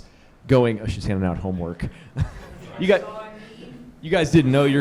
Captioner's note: chuckling